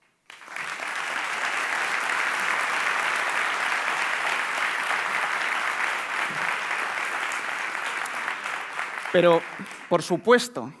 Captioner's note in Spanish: Aplausos